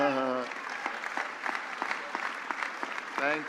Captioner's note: applause